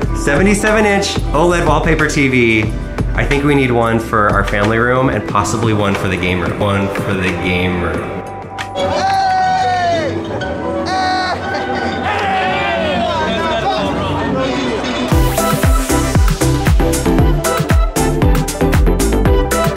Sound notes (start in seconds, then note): 6.8 echoing; 9.0 men yelling; 14.4 upbeat music